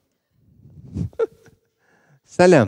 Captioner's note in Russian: Смеется